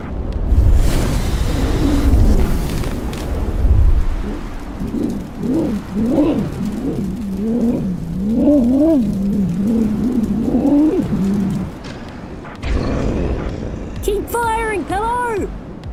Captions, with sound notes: [DRAGON GRUNTING] [GROWL] KEEP FIRING, PILLOW!